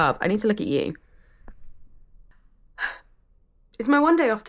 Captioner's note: deep sigh